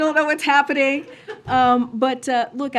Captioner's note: laughter